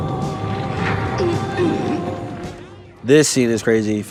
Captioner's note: Max groaning